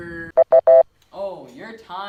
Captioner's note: timer Beeps